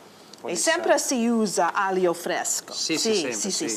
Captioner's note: speaking Italian